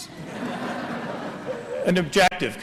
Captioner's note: laughter